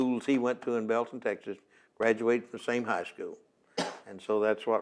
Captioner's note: coughs